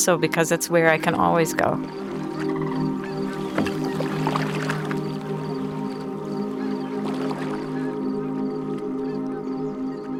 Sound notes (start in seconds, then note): 3.9 soft music; 3.9 water sloshing